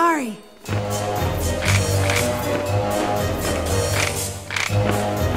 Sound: cabbage leaves snap

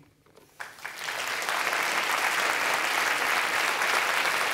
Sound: applause

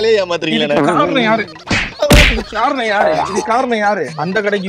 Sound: beating!

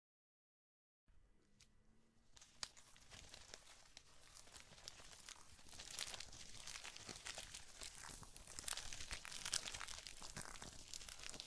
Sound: sound of spider horde

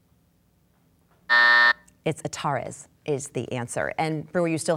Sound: buzzing

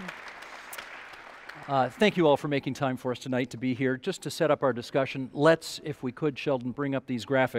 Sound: applause

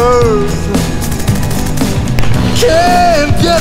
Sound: gunfire and explosions

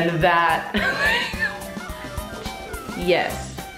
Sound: laughs

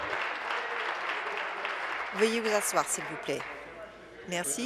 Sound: applause

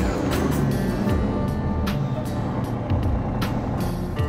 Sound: engine revving

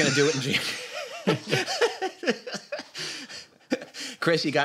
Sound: laughter

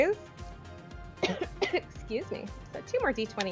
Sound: cough

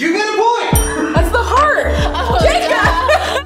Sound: bell rings

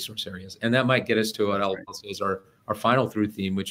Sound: voice distorting

